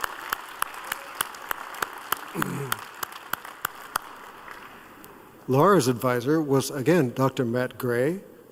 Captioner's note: applause